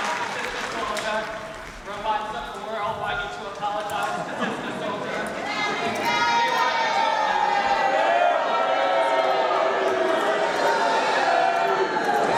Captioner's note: cheers and applause